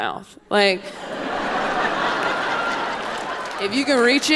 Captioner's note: audience laughing